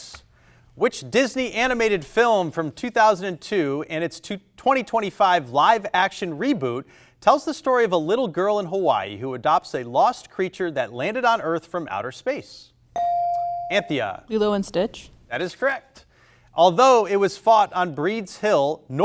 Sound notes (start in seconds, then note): 13.0 buzzer chimes